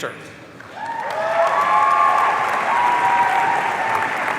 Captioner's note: audience cheering